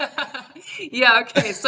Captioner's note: laughing